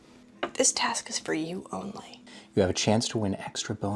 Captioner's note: none